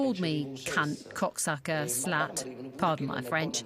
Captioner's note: speaking in foreign language